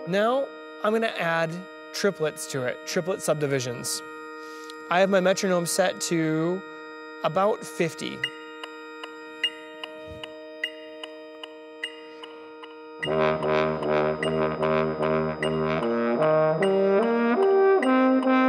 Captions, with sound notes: Now I'm going to add triplets to it. Triplet subdivisions. I have my metronome set to about 50. (metronome beats)